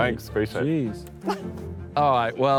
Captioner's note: laughs